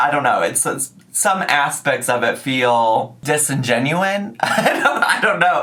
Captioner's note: laughs